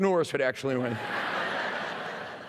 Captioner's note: laughter